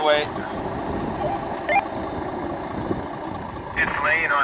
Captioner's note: radio beeps